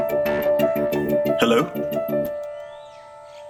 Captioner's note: Angad Over Call